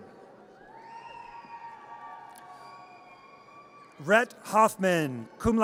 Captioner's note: audience cheers